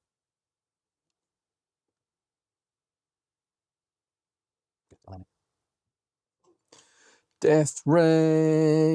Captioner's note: silence